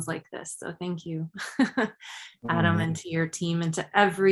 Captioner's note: chuckles